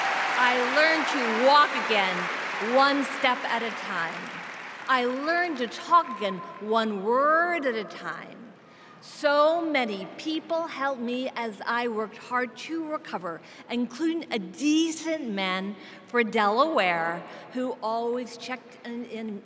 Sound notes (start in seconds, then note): 6.1 cheers and applause